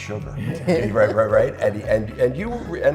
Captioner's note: laughing